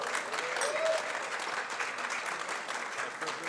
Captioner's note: applause